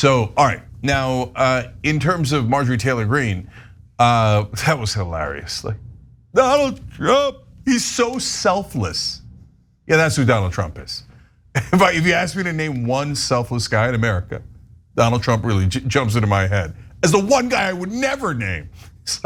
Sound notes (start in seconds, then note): 11.5 laugh